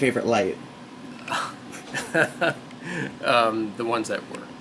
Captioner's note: laughs